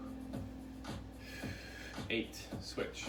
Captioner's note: upbeat music; breaths heavily